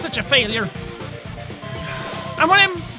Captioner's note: sigh